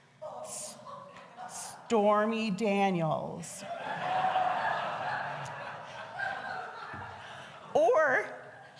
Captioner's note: congregation laughs